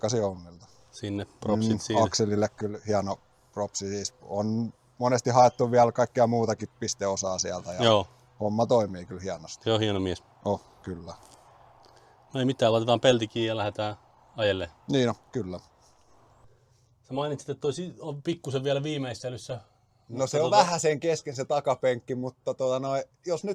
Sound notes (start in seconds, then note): 14.9 sounds of car driving